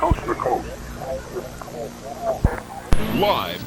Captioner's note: indistinct chatters